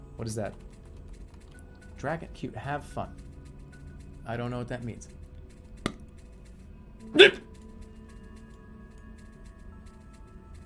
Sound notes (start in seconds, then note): 7.1 smacks lips and pukes